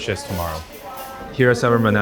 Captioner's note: people chatter